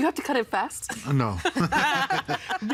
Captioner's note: laughing